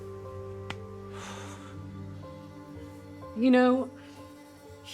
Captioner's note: exhales deeply